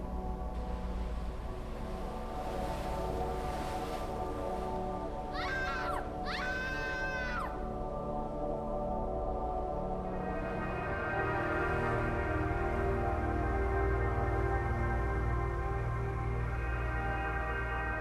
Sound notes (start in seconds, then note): 5.3 screaming continues